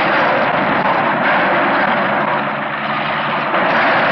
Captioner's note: splashing